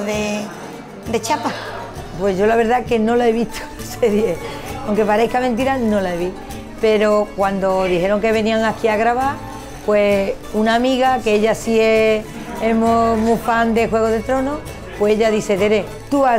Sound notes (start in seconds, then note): 1.6 speaking spanish